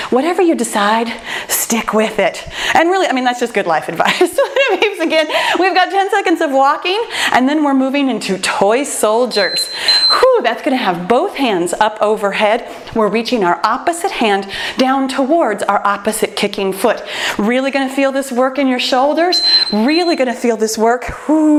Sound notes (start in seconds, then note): 4.4 laughs; 9.3 timer beeps; 19.2 timer beeps